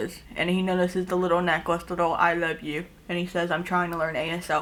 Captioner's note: none